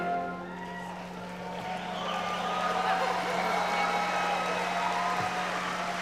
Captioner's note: audience cheering and applauding